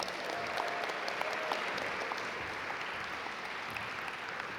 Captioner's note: audience applaud